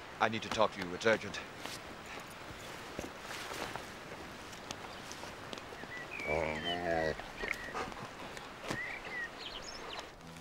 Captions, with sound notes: - I need to talk to you, it's urgent. (dog groaning)